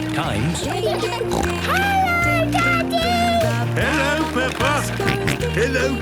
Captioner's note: snorting; George snorting